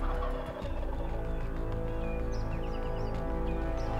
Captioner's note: turkey gobbles